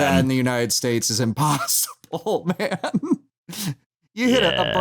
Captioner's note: laughs